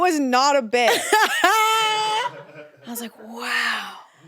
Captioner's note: everyone laughs